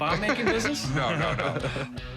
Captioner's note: laughing